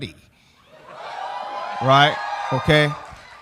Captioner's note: audience cheering